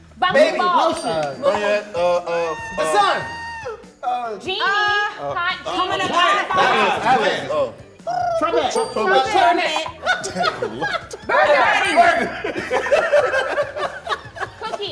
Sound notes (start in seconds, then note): 0.9 bell dings; 3.0 X Mayo screeches quietly; 8.0 Melvin makes a trilling noise; 8.7 bell dings; 9.4 they laugh; 11.6 bell dings; 12.0 laughter continues